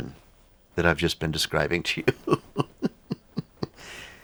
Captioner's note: laughs